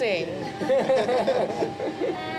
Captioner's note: all laughing and singing